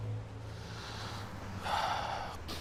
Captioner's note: sigh